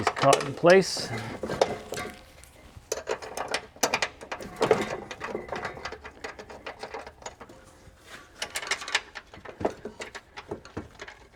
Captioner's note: drilling